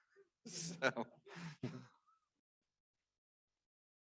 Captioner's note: chuckles